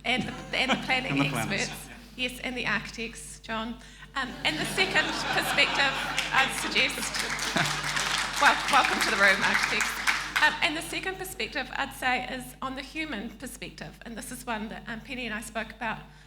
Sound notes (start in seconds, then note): 0.1 laughs; 4.2 audience laughing; 7.5 audience applauding